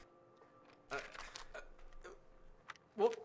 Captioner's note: Grayson stuttering